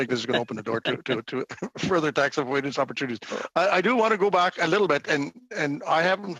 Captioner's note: laughter